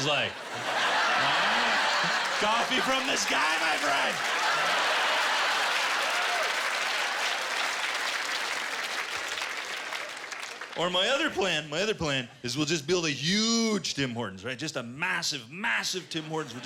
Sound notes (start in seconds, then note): 0.2 laughter; 4.6 laughter and applause